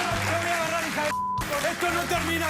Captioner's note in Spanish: aplausos